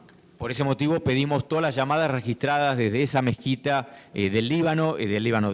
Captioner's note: speaking in foreign language